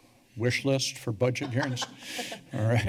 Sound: laughter

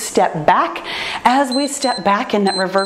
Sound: timer beeps

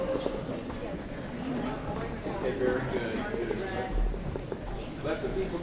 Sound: general chatter

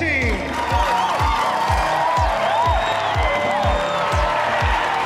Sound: cheering

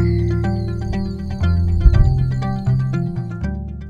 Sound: frogs calling; thunder

